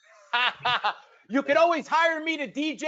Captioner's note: laughing